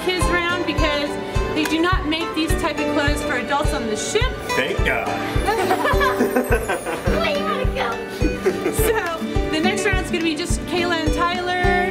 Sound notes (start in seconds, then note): 5.4 laughing